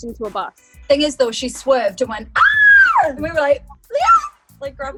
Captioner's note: screams